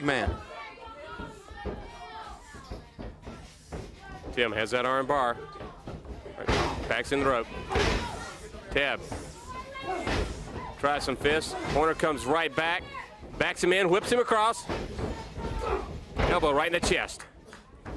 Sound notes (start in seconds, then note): 1.4 crowd chatter